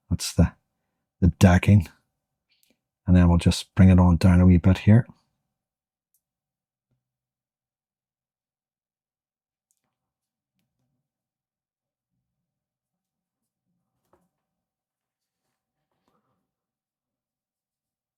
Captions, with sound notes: What's the decking? And then we'll just bring it on down a little bit here. [silence]